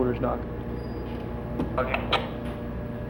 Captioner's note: intercom